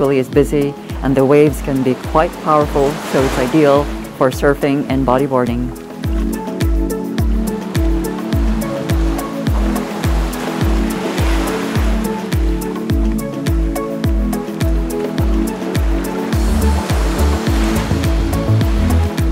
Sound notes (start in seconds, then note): 7.1 sound of waves